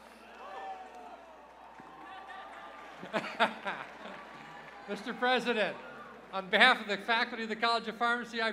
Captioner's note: cheers and applause